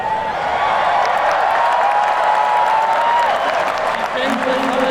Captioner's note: crowd cheers and claps